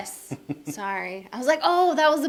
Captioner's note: laughing